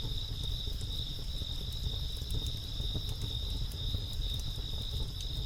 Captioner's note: crickets chirping continues